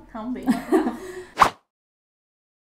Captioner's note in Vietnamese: Cuời